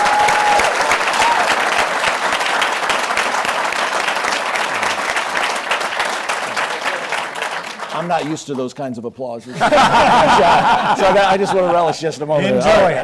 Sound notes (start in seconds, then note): 0.0 applause; 9.4 laughter